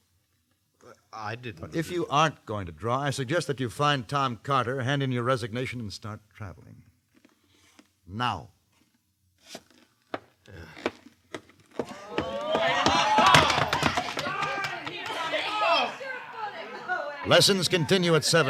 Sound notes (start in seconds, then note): 11.9 indistinct chatter